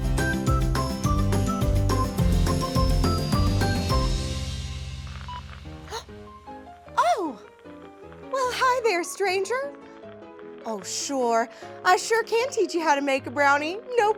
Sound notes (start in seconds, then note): 0.2 cheerful music; 5.9 gasps